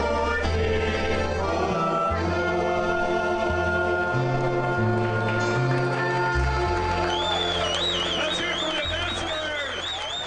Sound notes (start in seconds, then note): 6.2 crowd applauds